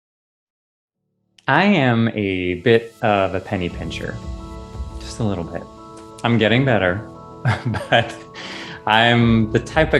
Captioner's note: laughing